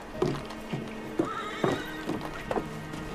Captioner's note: horses neigh at a distance